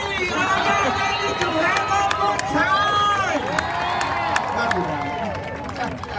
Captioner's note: crowd cheering